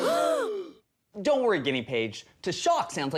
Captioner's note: band gasps